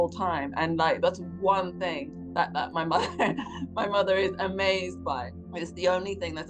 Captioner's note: chuckles